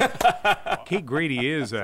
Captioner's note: laughs